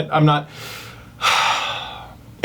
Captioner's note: sighs